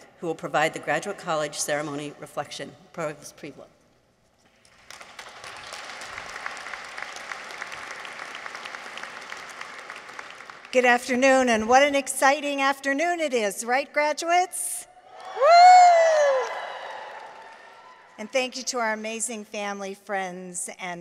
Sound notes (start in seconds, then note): 4.7 audience applauds; 15.0 graduates cheer